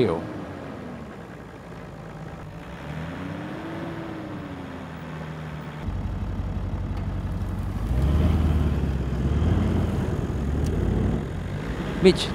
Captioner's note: vehicle sounds